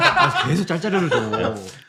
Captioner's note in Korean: 웃음